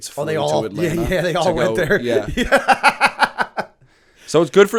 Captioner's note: laughter